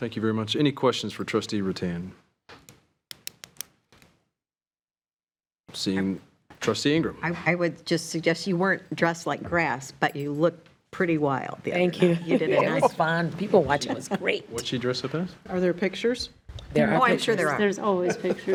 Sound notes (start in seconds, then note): 12.0 trustees chuckling